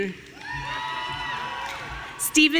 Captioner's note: audience cheering